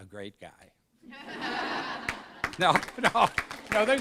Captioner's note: laughter and applause